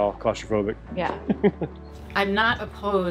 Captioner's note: chuckles